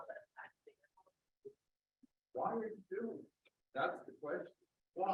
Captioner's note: microphone muted